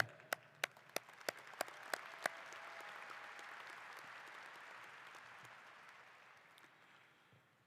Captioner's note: applause